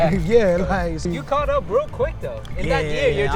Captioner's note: laughs